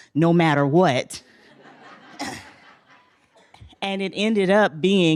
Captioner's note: laughter